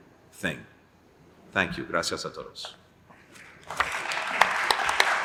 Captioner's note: applause